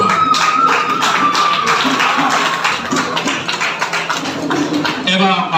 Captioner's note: a round of applause